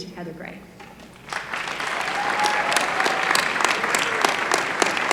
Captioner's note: applause